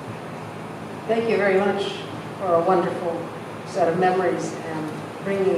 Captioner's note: voiceover